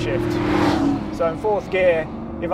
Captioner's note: car engine revving